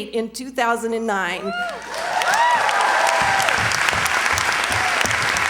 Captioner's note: cheers, applause